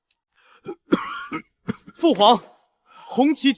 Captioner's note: cough cough